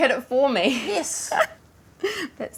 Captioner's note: laughs